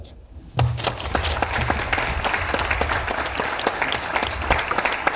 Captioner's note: audience applauds